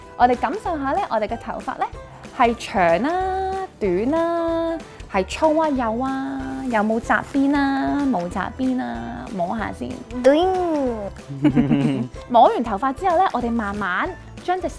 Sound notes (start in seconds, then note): 11.2 mimics the sound of swaying a ponytail; 11.2 laughing